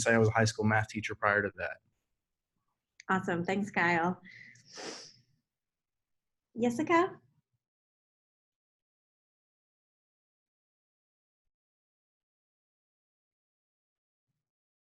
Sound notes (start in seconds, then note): 8.4 silence